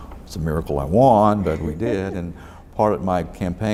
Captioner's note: laughs